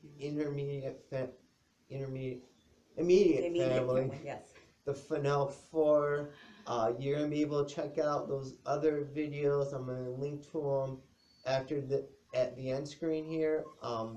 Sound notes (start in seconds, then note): 3.0 chuckles